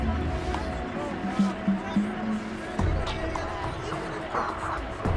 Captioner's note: crowd murmurs